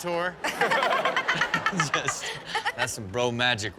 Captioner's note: all laughing